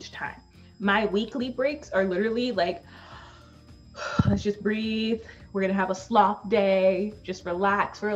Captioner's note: takes breath